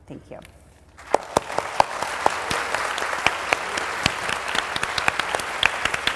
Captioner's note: applause